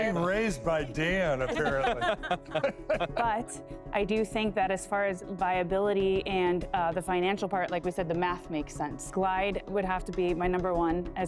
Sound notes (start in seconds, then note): 1.2 laughing